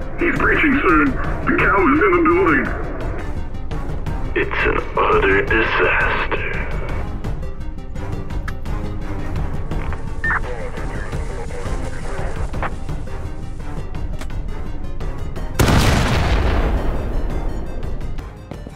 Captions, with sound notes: He's breaching sir! The cow is in the building! it's an udder disaster... [fuse sound] [massive explosion]